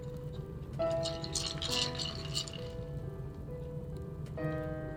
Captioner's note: ice cubes rattling